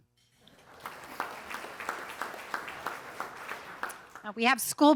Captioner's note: audience applauding